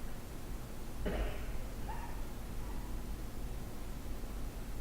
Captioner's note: coughing